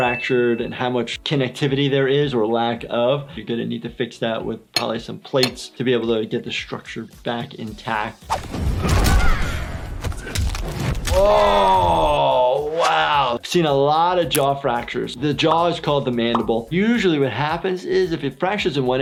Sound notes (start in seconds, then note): 8.3 fighting noises; 9.1 grunting; 10.0 crunching noises